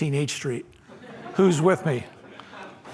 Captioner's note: laughter